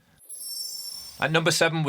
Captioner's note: screen twinkling